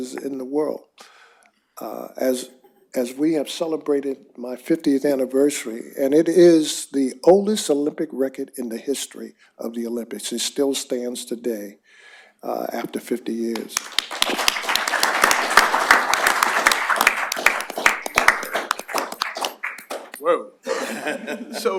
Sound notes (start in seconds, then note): 13.5 applause